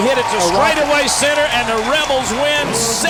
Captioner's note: voiceover